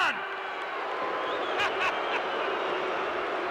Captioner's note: crowd boos